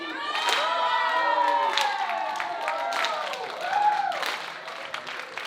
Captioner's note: audience cheering